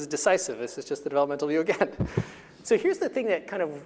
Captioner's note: chuckling